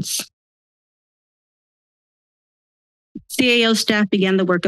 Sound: silence

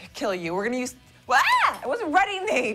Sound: girly squeal

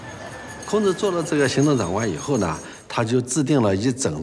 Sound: speaking Chinese

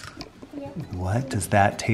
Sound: chip crunches

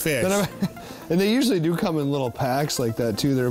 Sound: laughs

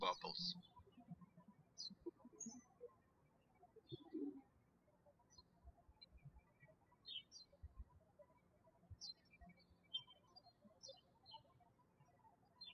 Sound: birds chirping

